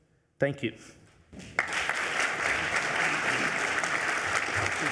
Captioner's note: audience applauds